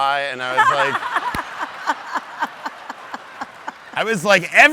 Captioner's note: audience laughs